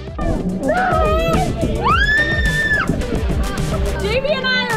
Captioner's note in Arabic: صراخ